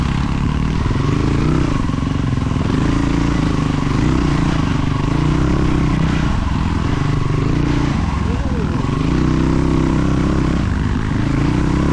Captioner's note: engine revving